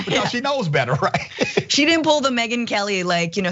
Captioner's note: laugh